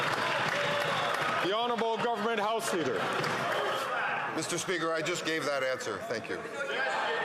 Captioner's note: some Applause